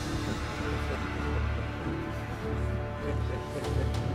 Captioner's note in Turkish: Gülme sesleri